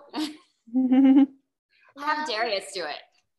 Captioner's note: laughing